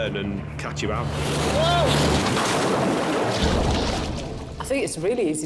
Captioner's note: waves whooshing